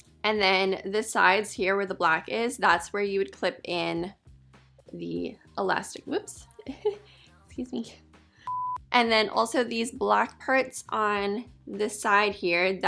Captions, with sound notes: And then the sides here where the black is, that's where you would clip in the elastic, whoops, excuse me. (beeping) And then also these black parts on the side here,